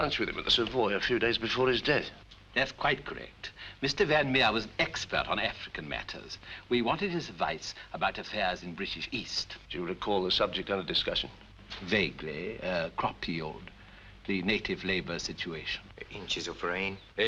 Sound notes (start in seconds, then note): none